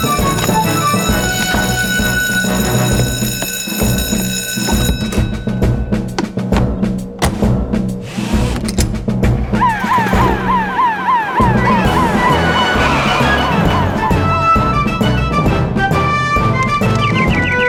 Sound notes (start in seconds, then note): 9.6 siren Wails; 12.3 heroic Music